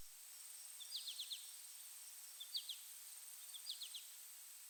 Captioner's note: birds chirping